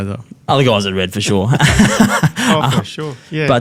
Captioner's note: laughs